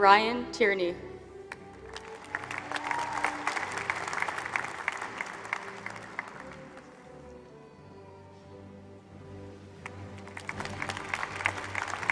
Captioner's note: applause